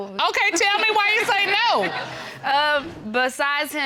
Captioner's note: audience laughs